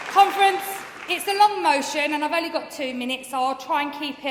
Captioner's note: applause